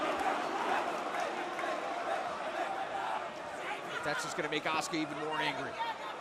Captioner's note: crowd chatter